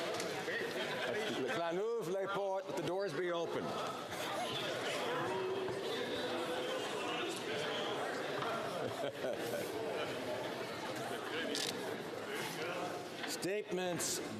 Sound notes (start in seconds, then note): 0.5 some Laughter; 6.9 speaking French